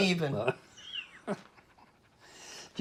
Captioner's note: laughing